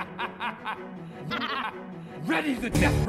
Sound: laugh; le laugh

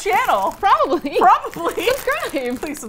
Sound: laughs

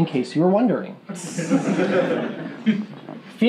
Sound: laughing

